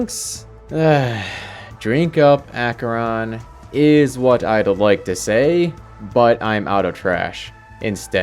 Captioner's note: sigh